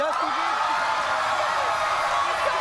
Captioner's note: audience cheers